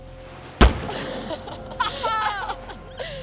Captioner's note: gun fires; girls laugh